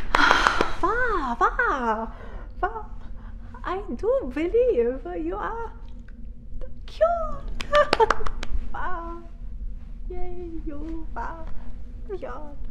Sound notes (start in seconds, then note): 0.0 claps; 7.5 claps; 7.6 laughs